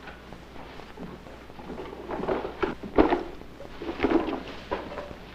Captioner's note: speaking in foreign language